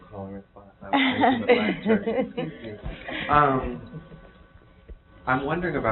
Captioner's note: muttering and laughing